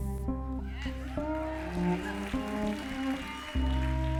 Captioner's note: applause